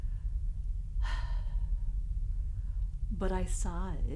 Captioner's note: sighs